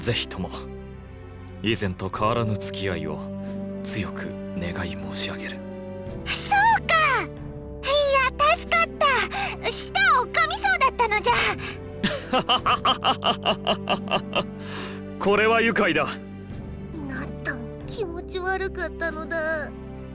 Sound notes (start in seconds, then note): 12.0 laugh